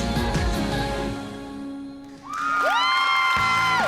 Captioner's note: applause, cheering and whooping